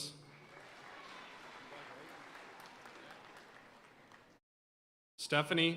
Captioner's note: audience cheering and applauding